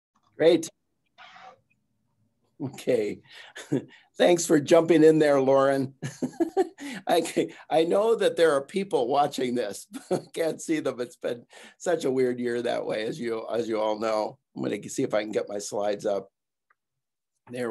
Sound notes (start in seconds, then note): 6.0 giggling